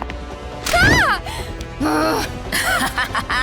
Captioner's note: laughs; grumbles